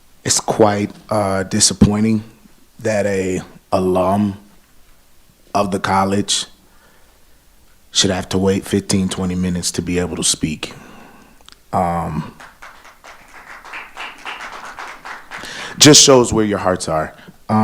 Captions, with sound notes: it's quite disappointing that a alum of the college should have to wait 15, 20 minutes to be able to speak. (audience applauding) Just shows where your hearts are.